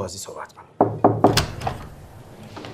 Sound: door knocking

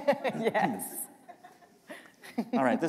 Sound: laughter

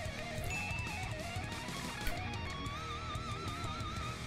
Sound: heavy metal guitar music; bell rings

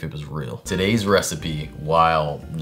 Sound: none

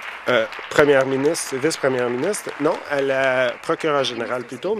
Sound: applause

